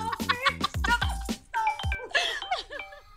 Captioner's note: Cell phone ringing